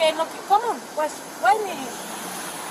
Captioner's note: speaking in Spanish